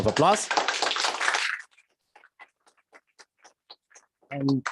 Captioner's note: applause